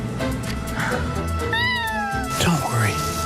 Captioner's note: kitten meows